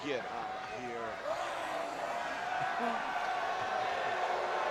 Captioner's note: crowd cheers